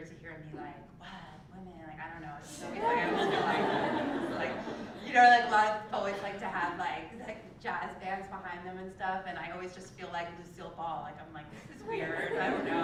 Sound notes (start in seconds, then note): 6.0 laugh